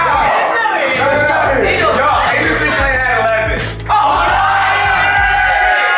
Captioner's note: students shouting